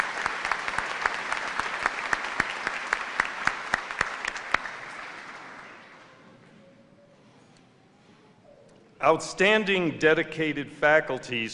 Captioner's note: applause